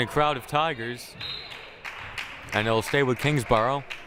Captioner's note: whistle blaring